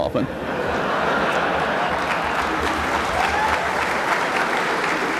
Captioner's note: laughter; applause